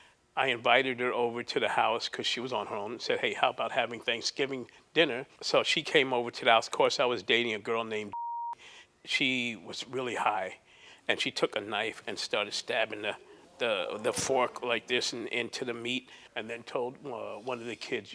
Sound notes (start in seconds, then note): 8.1 beep